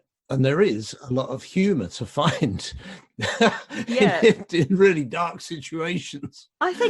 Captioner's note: laughs